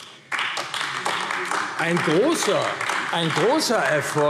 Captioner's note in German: Beifall AfD